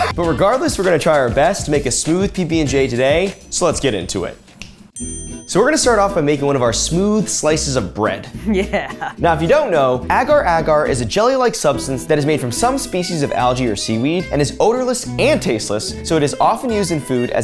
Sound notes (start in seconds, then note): 4.6 finger snapping